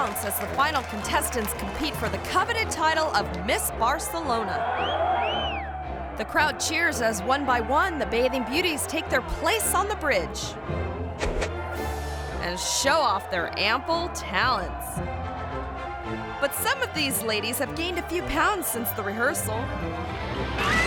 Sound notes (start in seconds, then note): 4.7 spectator whistling; 20.1 contestants screaming